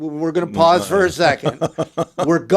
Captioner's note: laughs